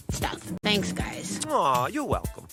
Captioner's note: yawns